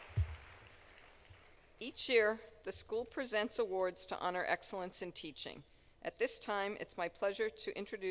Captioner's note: applause